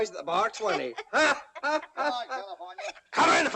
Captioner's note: laughter